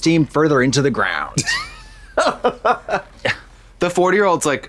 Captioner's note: Trixie guffaws